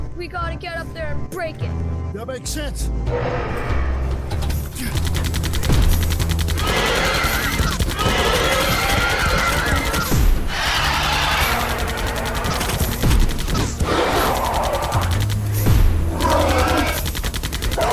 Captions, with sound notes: We got to get up there and break it. That makes sense. [Gunfire] [Loud screeches and roars] [Bullets ricochet] [Gunfire] [Loud screeches and roars]